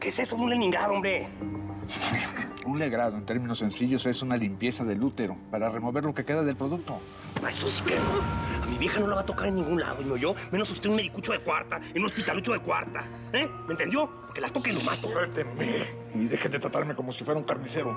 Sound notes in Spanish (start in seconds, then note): none